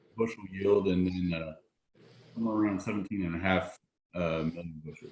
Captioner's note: audio is choppy